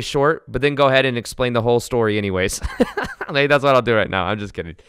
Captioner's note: laughs